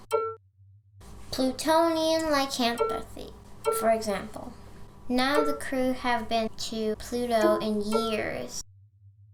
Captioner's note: beep, beep; boop, beep